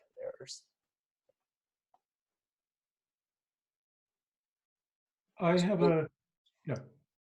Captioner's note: silence